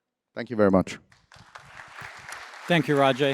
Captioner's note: applause